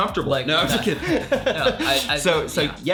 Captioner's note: laughing